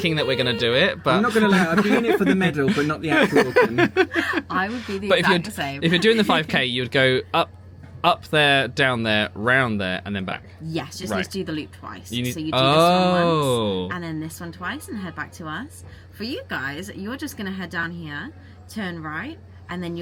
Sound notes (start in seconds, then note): 3.8 laughing